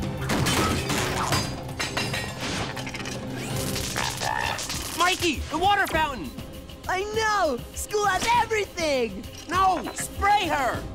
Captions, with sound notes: [clanking] Mikey! The water fountain! I know! School has everything! No! Spray her!